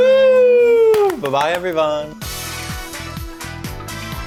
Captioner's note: clapping; upbeat music